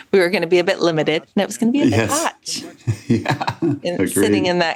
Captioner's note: chuckles